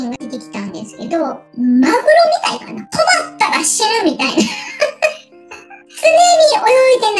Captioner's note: laughs